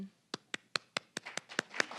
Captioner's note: clapping; applause